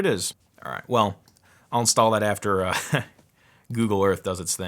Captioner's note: laughs